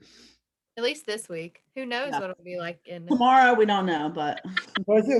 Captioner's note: laugh